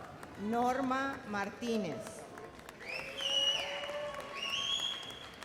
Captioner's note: whistles and cheers